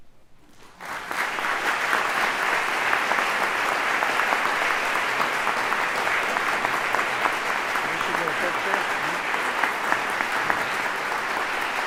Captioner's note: applause